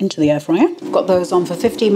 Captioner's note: air fryer whirring